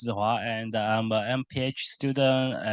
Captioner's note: foreign language